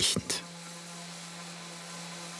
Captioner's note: machine whirring